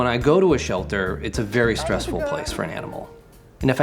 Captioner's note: narrating